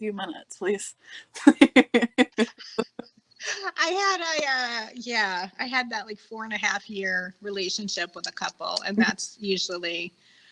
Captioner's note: laughing